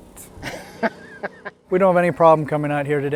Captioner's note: laughing